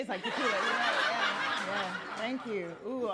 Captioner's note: audience laughing